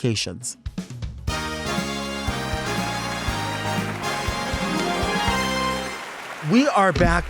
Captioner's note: upbeat music continues; audience applauds